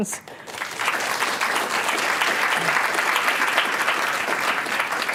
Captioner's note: applause